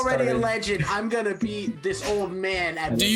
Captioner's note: mocking